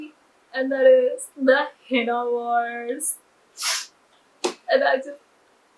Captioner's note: loudly sniffs